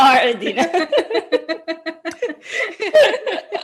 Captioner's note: laughing